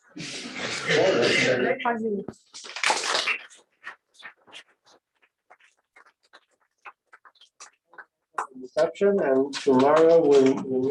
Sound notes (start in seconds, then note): 0.2 laughter; 2.6 applause